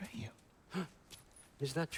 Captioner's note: gasp